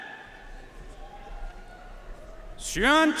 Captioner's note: audience cheering and applauding